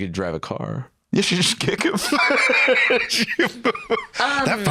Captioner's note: laughs